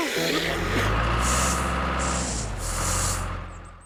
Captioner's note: engine Running